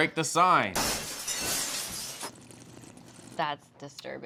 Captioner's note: glass shatters